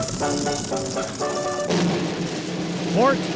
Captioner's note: film projector whirring